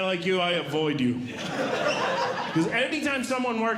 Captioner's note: audience Laughing